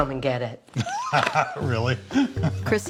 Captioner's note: laughs